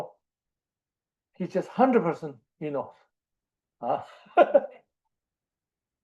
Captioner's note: laughs